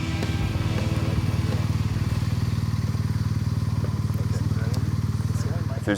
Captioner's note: motorcycle engines revving